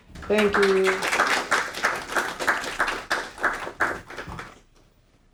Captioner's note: audience applauding